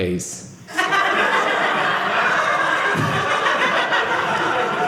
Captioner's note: audience laughing